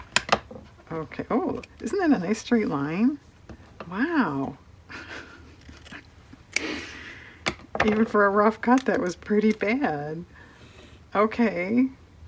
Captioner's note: laughs